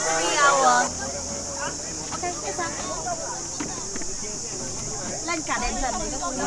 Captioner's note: crowd chatter